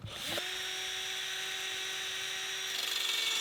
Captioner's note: whirring